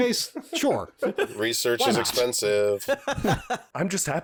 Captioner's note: singsong; chuckles